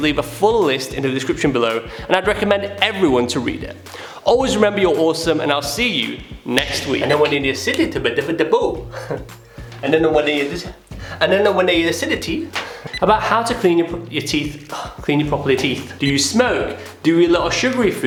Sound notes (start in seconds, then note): 6.7 laughing and mumbling noise; 12.6 laughing